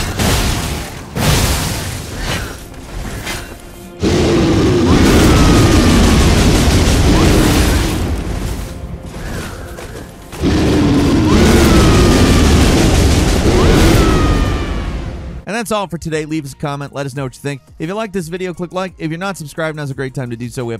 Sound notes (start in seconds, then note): 0.0 weapon slashes; 4.0 bear roars; 10.3 bear roars